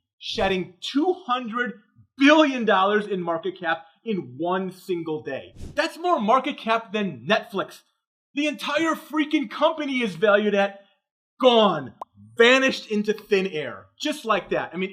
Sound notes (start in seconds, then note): none